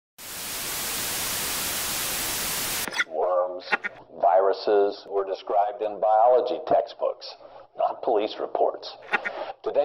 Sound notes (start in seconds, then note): 0.2 radio static; 2.0 radio transmission